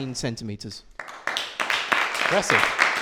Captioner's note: applause